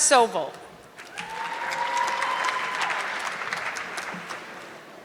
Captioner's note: audience clapping